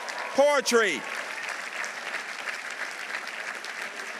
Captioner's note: audience applauding